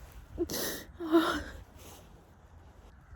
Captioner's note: cries softly in a sigh; sniffles